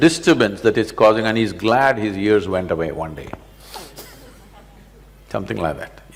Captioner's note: laughs